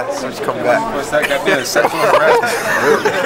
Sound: laughter

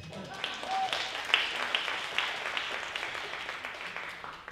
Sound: audience applauding

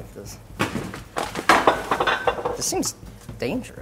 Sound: clanking

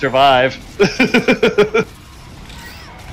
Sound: laughter

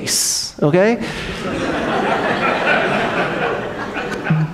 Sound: audience laughs

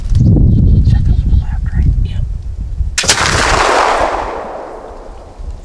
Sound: gun shot

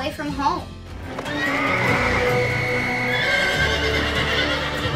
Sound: horse whinnying

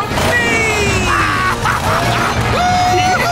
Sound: laughing

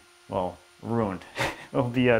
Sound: chuckles

